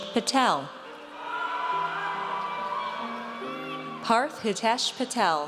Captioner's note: audience cheers